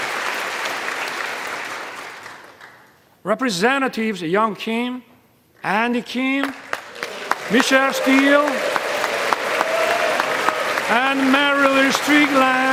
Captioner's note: applause